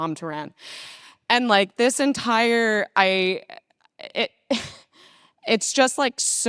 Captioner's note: chuckles